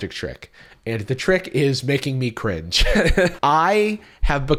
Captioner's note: laughs